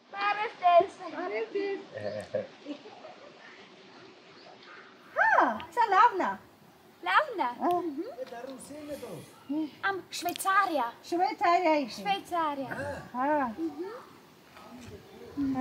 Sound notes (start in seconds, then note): 0.9 in Armenian; 5.2 speaking Armenian; 12.1 in Armenian